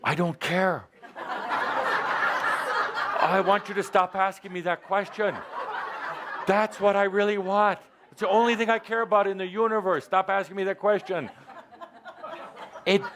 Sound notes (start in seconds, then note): 1.0 lots of laughter; 4.8 more laughter